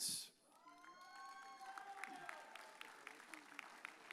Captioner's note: audience cheers